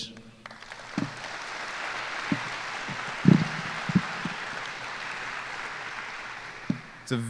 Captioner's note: applause